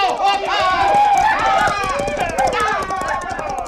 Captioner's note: crowd cheering